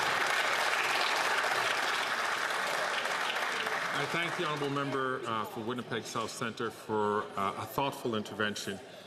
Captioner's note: some Applause